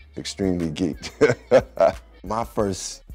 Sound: laughs

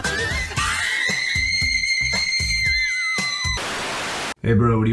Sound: shrieks badly

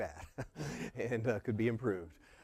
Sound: laugh

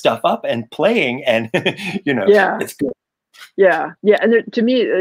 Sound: mic cuts out

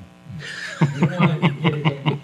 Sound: folks chuckling

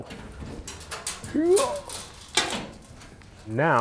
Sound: grunts

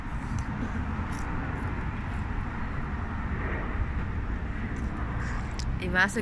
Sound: background noise & chewing

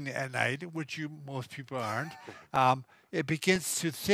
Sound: laughs

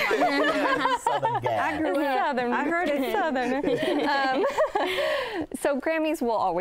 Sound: laughing and talking over each other

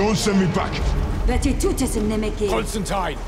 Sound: speaking foreign language

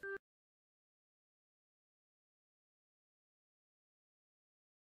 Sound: silence

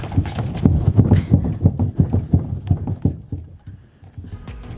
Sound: sound of slide rocking side to side

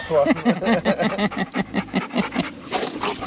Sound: laughing

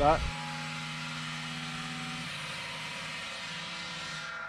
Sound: cutting machine whirring

